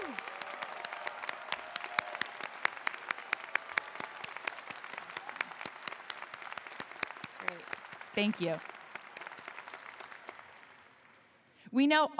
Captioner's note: applause